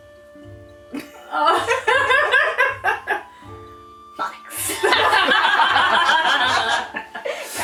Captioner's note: slightly-more-worried laughter